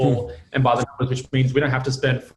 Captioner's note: speaks faintly